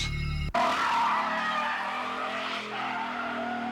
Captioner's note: tires screech